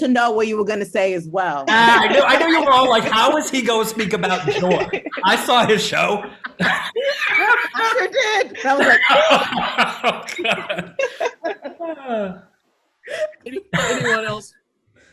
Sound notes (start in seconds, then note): 9.6 panelists laugh